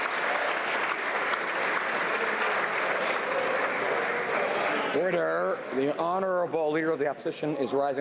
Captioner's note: applause